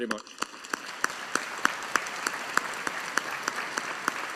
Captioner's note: audience applauding